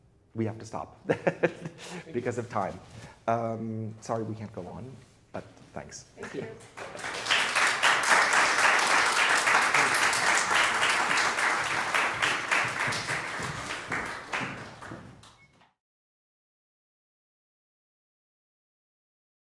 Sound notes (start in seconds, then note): 1.1 laughs; 6.5 audience applauds